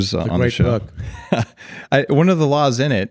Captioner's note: laughing